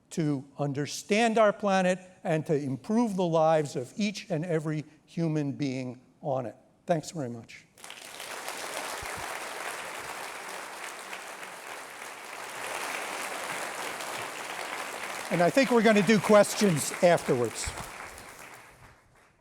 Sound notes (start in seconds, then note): 7.7 applause